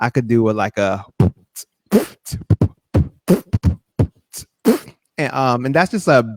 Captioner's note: beat-boxing